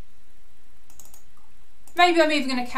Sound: mouse clicking

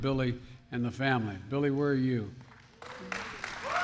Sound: applause

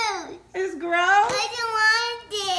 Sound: voiceover

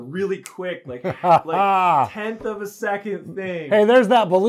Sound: laughs

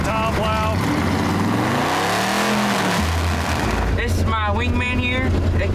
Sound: engine roaring

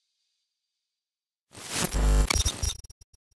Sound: static buzz

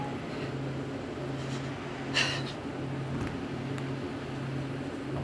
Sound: Alex breathing heavily

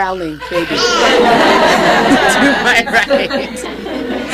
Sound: audience laughing

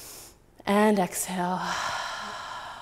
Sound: exhaling

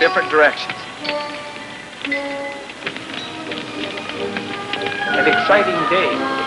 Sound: fire crackling

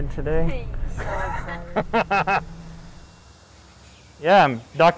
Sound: cheering, laughter

